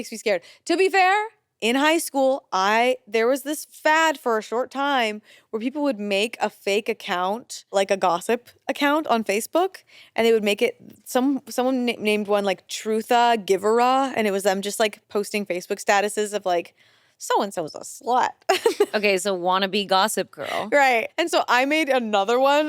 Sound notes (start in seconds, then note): 18.5 chuckles